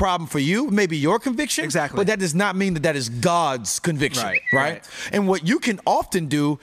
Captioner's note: tweet